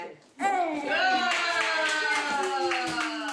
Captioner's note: family cheering